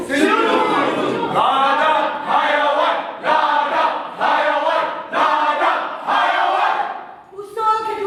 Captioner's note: Chant: Animal Farm!